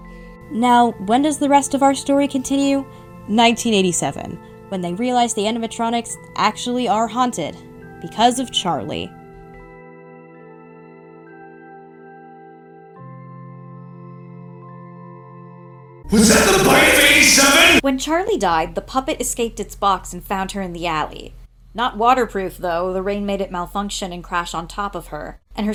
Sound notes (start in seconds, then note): 16.0 MARKIPLIER, echoing